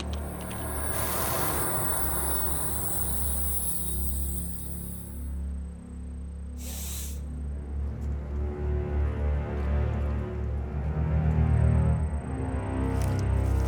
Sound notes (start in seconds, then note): 1.0 dust ringing; 6.7 Fay sniffs